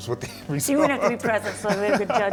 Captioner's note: laughing